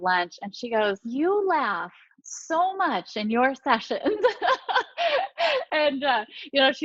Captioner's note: laughing